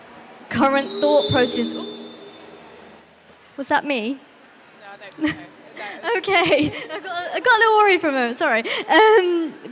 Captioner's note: mic noise